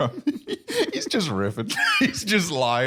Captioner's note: laughs